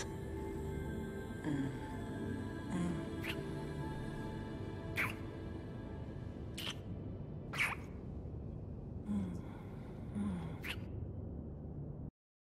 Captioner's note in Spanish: Besos y gemidos